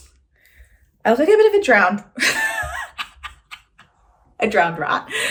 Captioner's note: woman laughing